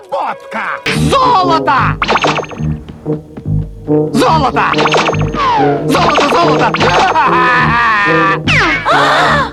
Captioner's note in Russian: безумный смех